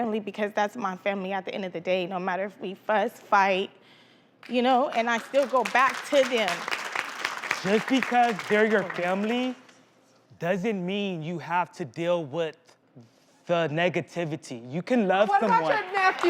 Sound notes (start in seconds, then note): 4.7 audience claps